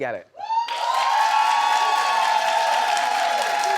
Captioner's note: audience cheers